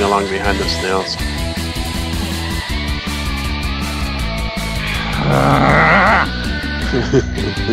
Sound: Tindy Growls in disgust

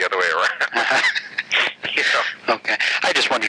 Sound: laughing

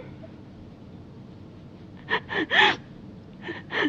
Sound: Angela crying

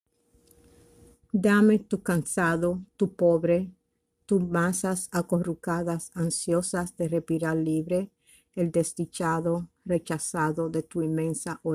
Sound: spanish

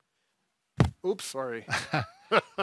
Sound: pillow pops

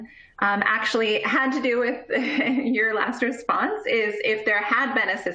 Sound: laughter

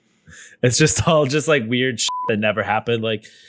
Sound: beep

